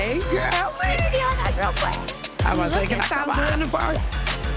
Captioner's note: both exclaiming